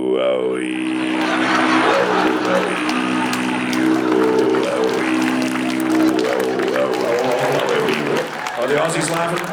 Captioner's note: didgeridoo sound; audience laughing